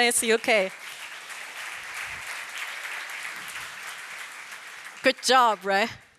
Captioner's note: applause